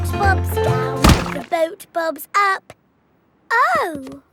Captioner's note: thuds